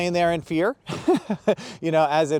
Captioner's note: chuckling